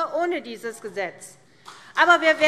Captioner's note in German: Beifall CDU